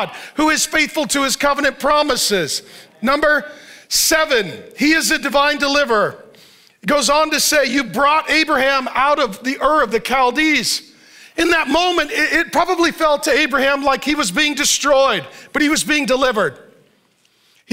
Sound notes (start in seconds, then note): none